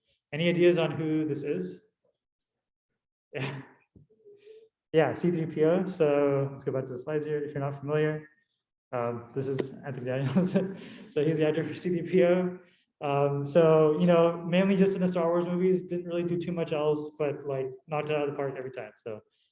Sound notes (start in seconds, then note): 3.4 chuckling